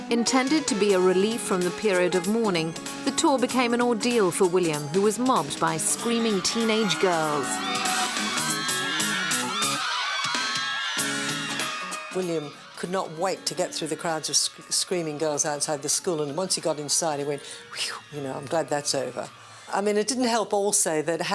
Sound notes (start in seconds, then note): 7.8 girls screaming